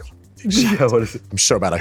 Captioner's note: laughs